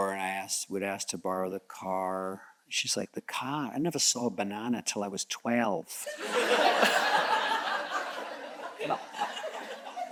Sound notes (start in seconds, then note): 6.2 audience chuckles